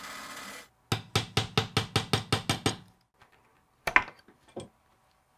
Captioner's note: hammer tapping